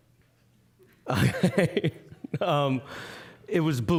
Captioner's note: laughing